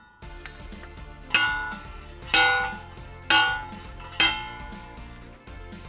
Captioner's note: post pounder clanging; upbeat music